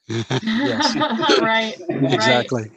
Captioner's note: laughing